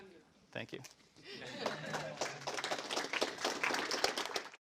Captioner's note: applause